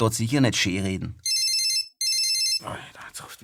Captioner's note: phone rings